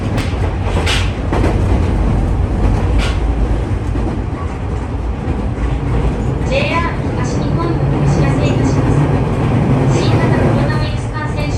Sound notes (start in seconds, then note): 6.4 train rumbling